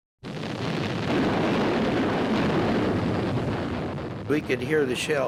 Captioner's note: artillery firing